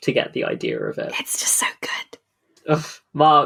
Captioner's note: whispering